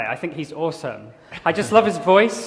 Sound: laughter

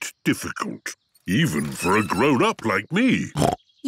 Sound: snorts

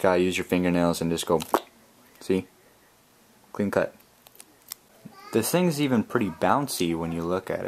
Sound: plip

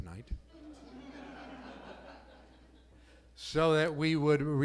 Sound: laughs

